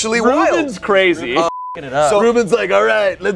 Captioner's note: beep